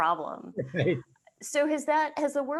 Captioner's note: laughing